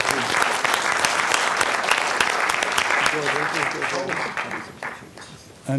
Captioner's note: clapping